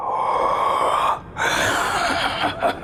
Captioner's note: gasps; evil laugh